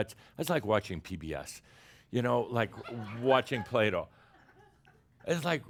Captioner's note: more chuckles